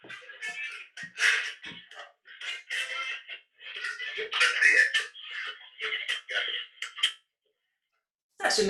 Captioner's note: sfx - radio being tuned in - static